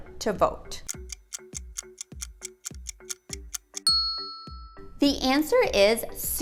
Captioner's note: timer ticking; ding